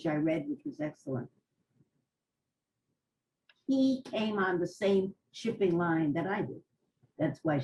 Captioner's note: pauses for 3 seconds